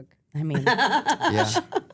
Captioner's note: laughs